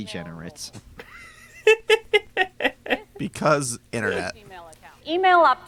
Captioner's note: laughs